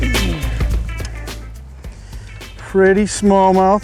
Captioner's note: man groans